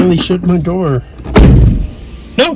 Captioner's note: window rolls up